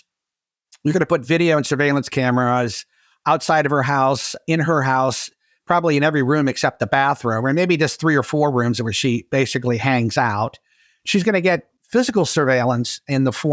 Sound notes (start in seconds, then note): none